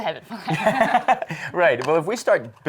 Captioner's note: laughs